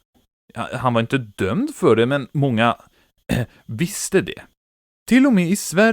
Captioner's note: hrrm